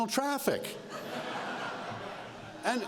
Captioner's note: laughter